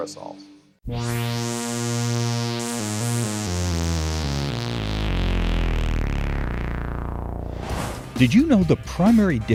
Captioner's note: sound Effects